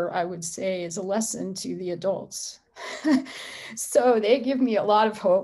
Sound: laughs

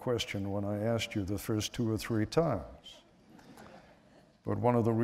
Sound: laughter

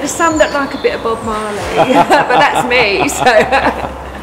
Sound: laughs

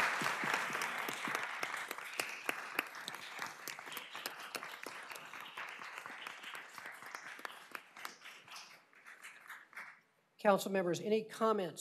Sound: applause

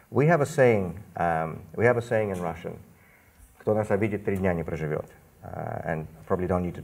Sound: speaks Russian

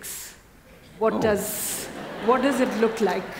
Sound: laughter

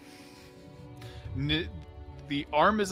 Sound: laughs

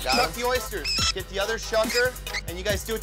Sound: rat squeaking

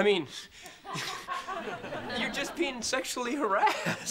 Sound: laughing

